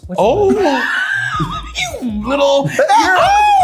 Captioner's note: laughing